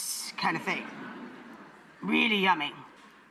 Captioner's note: audience laughs